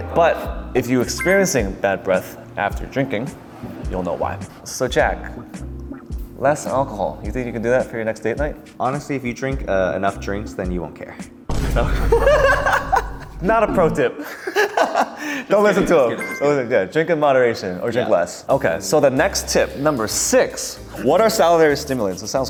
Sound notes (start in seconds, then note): 11.9 laughing; 11.9 chuckling